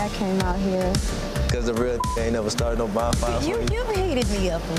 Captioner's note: beeps